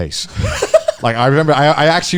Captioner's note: laughing